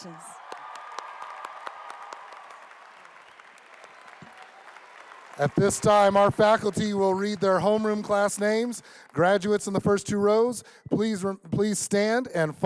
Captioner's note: applause